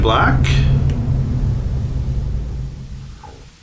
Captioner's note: engine revving